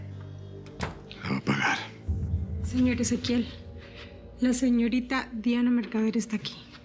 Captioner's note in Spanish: Ruido de la puerta